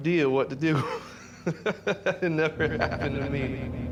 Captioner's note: chuckling